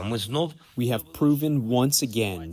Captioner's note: through translator